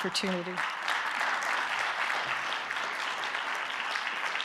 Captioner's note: audience clapping